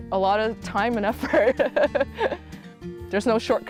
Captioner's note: laughs